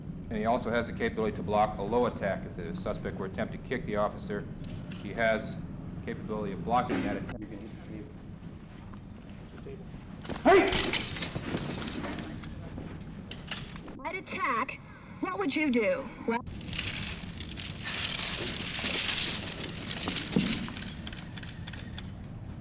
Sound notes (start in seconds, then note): 10.2 outcry; 16.4 chain noises and camera noises